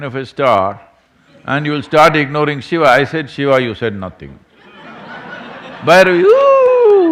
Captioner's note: laughter